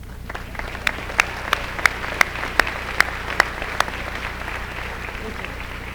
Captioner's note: applause